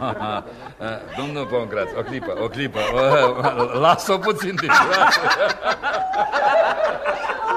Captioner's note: laughter